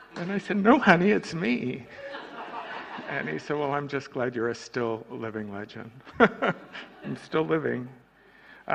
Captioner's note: laughter